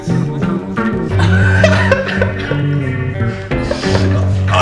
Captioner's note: laughing